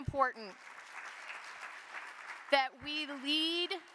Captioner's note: audience applauding